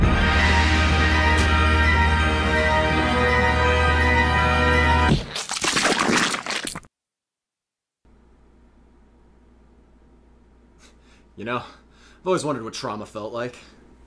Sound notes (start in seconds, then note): 0.0 inspiring music; 5.1 splatter